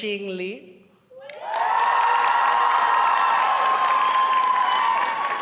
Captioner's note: applause